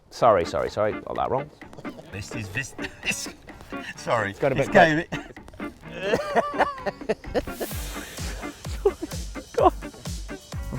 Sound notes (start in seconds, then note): 3.5 laughs; 6.6 laughing; 8.8 laughs